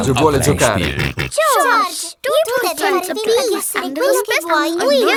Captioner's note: snorts